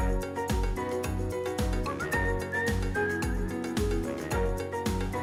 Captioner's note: none